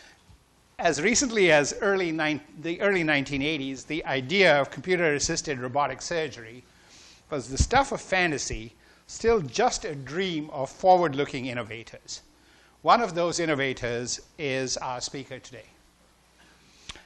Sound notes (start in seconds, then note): none